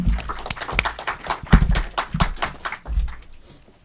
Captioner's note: audience applauding